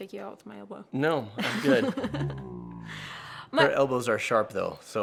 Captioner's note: laughs